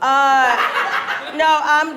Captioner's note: audience laughs